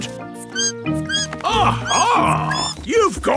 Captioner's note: bat squeaking